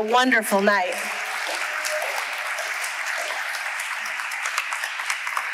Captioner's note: audience applauding